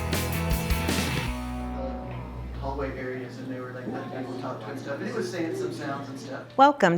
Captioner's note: classroom chatter